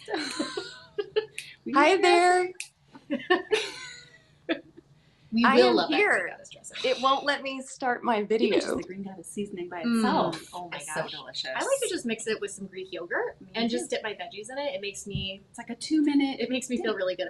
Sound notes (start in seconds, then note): 0.0 chuckles; 3.0 chuckles